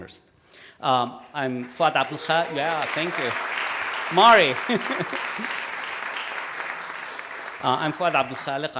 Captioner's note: applause